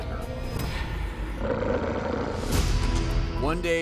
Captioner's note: growling